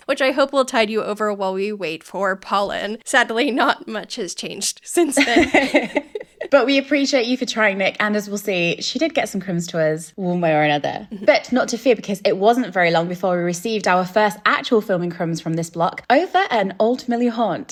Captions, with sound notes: which I hope will tide you over while we wait for Polin. Sadly, not much has changed since then. (laughing) - But we appreciate you for trying, Nic. And as we'll see, she did get some crumbs to us one way or another. But not to fear, because it wasn't very long before we received our first actual filming crumbs from this block over an old Hatfield House.